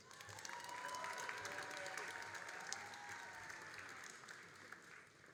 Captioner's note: all applauding and cheering